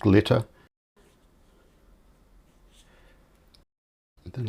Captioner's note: silence